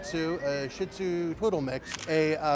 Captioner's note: shutter clicks